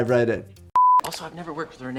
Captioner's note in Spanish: pitido de pantalla